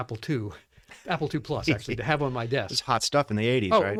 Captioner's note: laughing; laughs